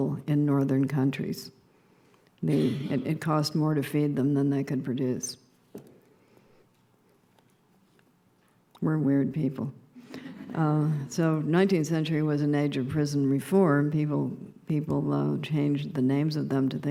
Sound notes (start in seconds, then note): 10.1 subdued laughter